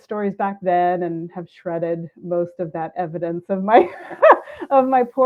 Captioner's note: laughs